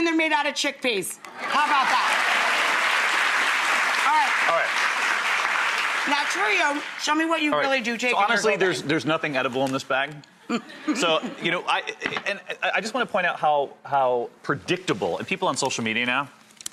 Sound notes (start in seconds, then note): 1.3 audience clapping; 10.5 laughing